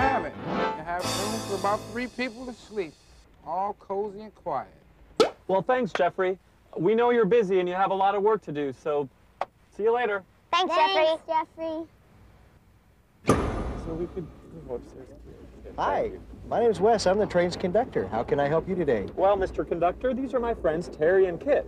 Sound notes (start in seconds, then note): 5.2 quick pop; 13.2 loud bang